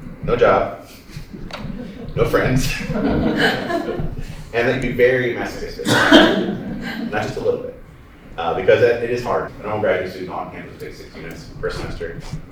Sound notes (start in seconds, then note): 2.9 laughter; 5.8 laughter